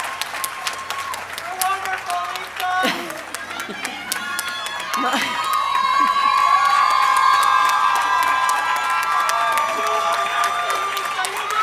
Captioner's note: applause